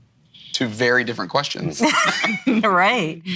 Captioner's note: laughs